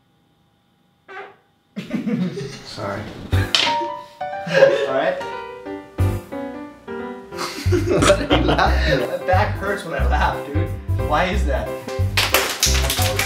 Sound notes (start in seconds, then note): 1.0 farting; 7.4 laughter